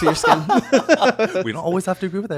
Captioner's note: both laughing